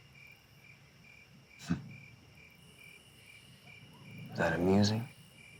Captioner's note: laughs